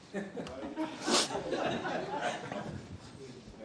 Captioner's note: laughter